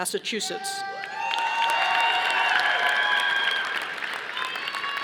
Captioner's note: audience applauding